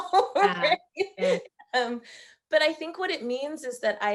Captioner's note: laughing